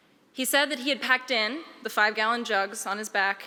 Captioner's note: none